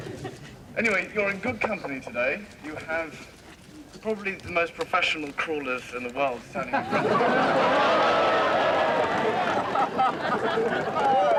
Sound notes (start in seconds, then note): 6.6 people laughing